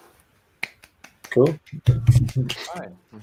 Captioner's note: group clapping